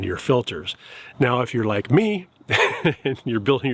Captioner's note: chuckles